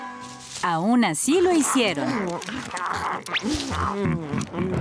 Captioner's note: eating noises